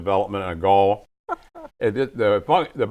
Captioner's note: laughing